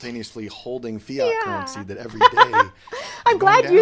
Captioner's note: laughs